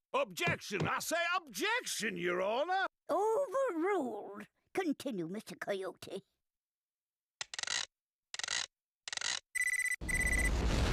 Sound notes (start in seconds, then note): 7.4 whirring; 9.5 beeping